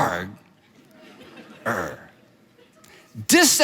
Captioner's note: audience laughs